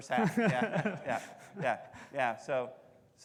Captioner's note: laughing